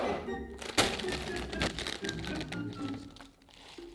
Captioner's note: plastic bag rustling